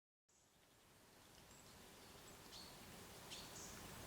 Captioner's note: birds chirping